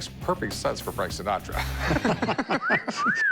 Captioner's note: both laughing